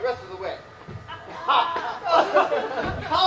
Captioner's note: cheers, John Little coughs